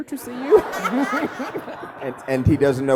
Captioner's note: laughing